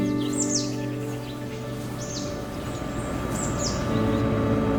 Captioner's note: birds chirping; rotor blades whirring